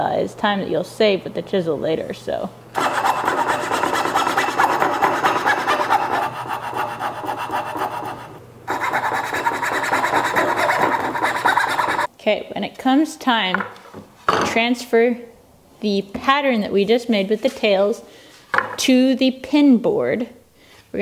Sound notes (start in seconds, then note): 2.7 rasping